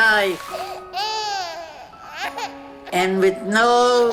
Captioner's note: newborn crying